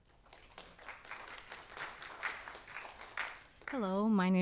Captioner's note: audience applauds